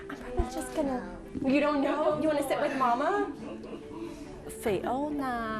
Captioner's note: chuckles